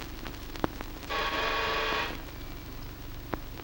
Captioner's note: doorbell rings